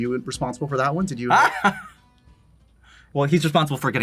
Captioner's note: laughs